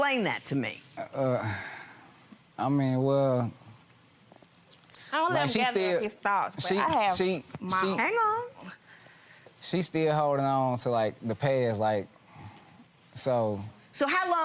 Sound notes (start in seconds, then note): 1.2 sighs